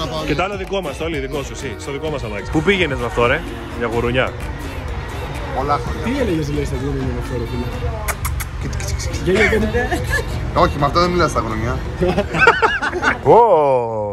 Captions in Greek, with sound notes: Και το άλλο δικό μας, Τόλη. Δικό σου. Στο δικό μας αμάξι. Πού πήγαινες με αυτό ρε; Για γουρούνια; Πολλά χρόνια πριν. -Τι έλεγες στα γουρούνια; [ήχος φιλιού] Κιτς κιτς. Όχι με αυτό δε μιλάς στα γουρούνια. [γέλια] Ωω!